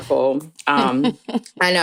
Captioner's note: chuckles